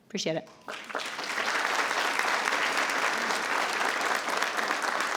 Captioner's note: everyone applauding